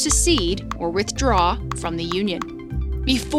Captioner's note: graphics popping